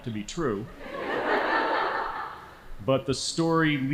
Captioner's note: laughing